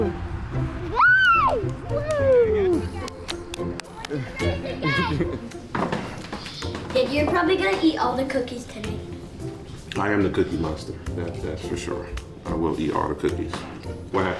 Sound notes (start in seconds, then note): 0.9 child squealing; 2.2 light music